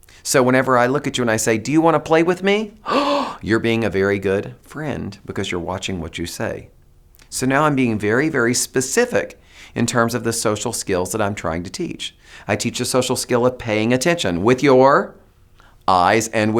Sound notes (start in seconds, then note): 2.8 gasps